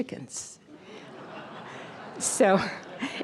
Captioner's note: audience laughter